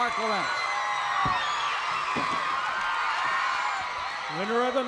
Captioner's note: crowd cheers